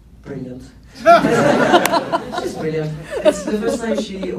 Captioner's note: laughs